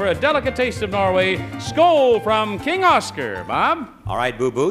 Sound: speaking in foreign language

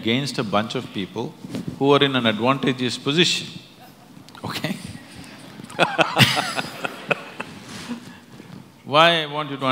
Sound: laughter

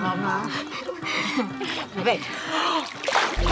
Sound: giggling; inhaling

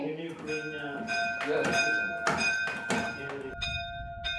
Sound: bell ringing

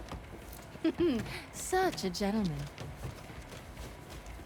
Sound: laugh

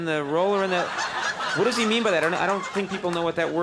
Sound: audience laughing

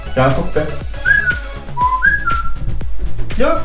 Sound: whistle

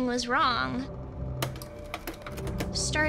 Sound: projector clicking

